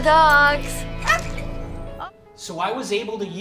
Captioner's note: dog barking